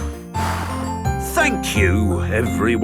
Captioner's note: blows